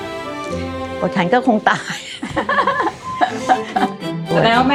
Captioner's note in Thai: เสียงหัวเราะ